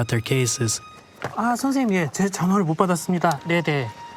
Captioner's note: speaking Korean